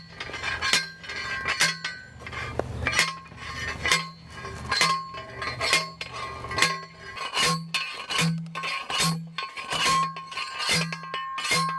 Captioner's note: banging